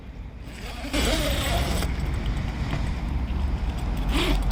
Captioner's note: zipper opens